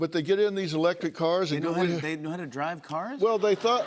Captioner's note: laughter